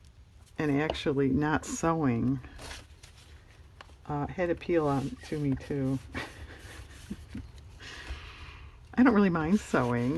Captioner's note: laughs